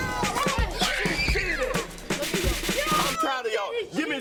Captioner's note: kids continue cheering